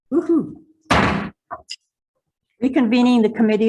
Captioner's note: gavel bangs